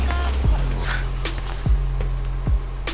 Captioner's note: sneezes